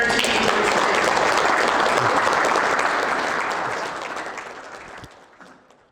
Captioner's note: applause